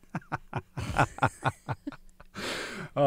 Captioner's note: laughter